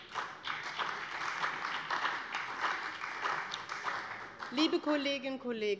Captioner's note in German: Beifall bei dem BÜNDNIS 90/DIE GRÜNEN und der CDU